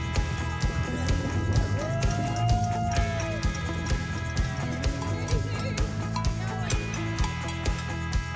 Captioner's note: cheering